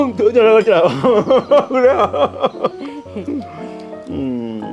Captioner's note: both laughing